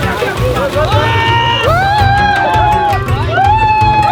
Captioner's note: screaming